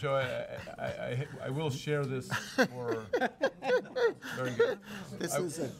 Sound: chuckling

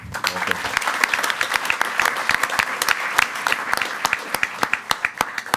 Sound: everyone applauding

